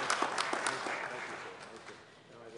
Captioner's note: applause